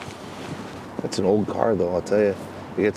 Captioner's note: clothing rustling; water splashing